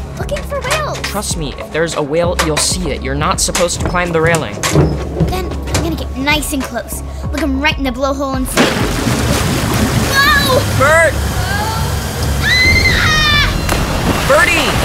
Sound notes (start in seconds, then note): 8.5 splash; 12.4 screams